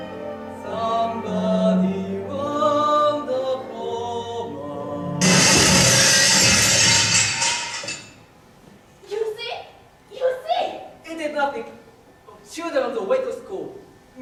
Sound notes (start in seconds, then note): 5.2 A brick crashes through the window